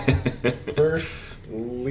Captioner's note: laughs